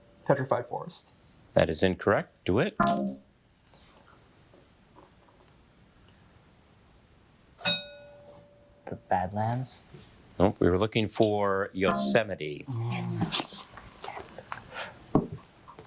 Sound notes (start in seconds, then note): 7.6 bell dinging